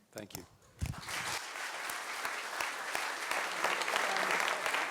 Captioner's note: applause